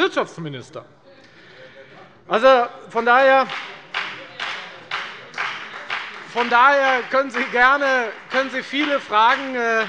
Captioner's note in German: Beifall bei der FDP und bei Abgeordneten der CDU